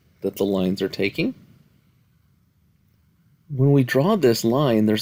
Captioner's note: no Speech Detected